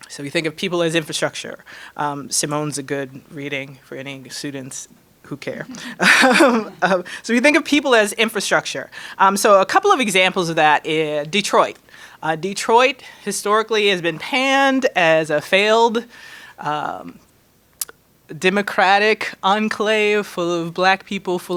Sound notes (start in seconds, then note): 5.6 laughing